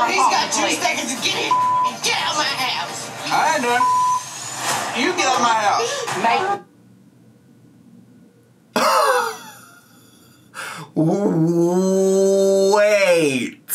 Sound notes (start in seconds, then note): 1.5 beep; 3.8 beep; 9.8 gasps